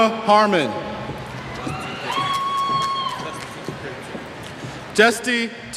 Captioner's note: cheers